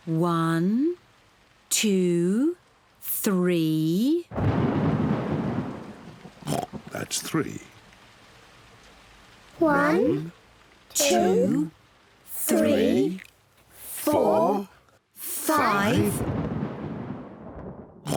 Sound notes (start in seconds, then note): 4.3 thunder rumbles; 6.4 oinks; 15.8 thunder rumbles